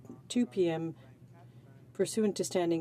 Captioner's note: speaking french